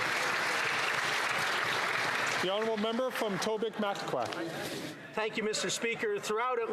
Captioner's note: applause